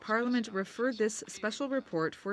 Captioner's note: speaking French